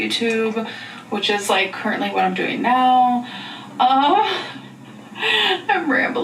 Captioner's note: laughs